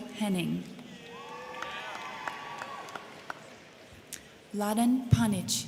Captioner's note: crowd clapping; crowd cheering